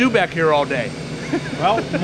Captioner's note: laughing